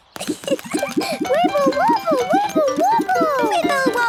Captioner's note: giggles